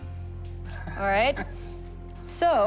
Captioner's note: laughter